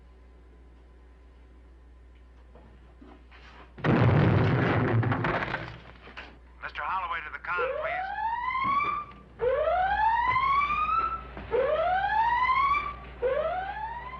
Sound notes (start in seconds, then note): 3.8 loud Bang; 7.4 alarm Blaring